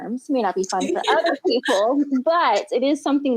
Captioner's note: laughs